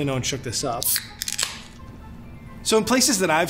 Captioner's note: opens can